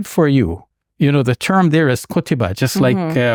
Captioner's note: foreign language